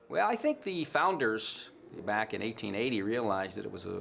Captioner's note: none